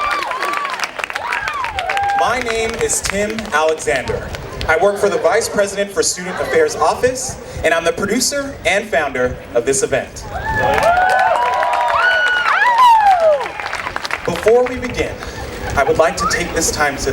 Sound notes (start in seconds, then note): 0.0 cheering; 10.3 cheering